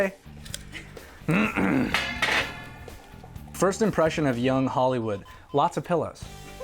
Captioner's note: clears throat